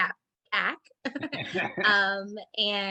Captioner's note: laughing